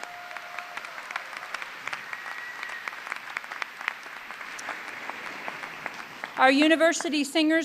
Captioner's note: cheers and applause